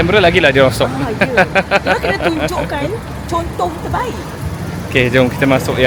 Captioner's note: laugh